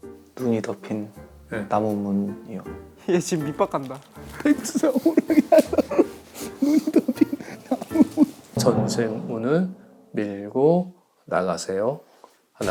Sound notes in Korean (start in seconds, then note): 4.3 꺼이꺼이